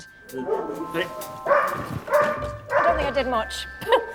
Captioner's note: dog barks